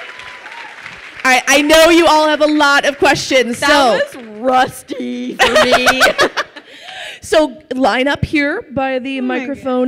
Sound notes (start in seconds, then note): 5.3 laughs